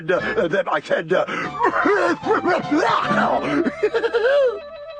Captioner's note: pretends to cough, then laughs